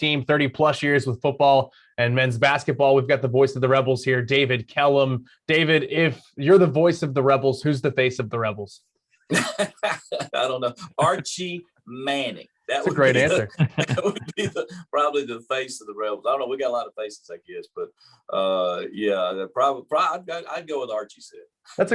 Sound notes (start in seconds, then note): 12.8 laughter